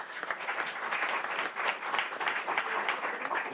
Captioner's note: applause